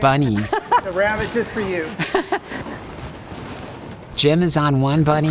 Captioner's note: laughing